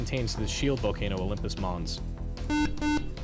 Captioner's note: beep